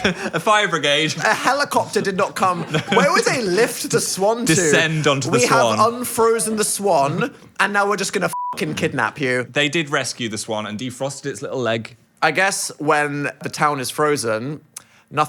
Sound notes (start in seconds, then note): 8.3 beep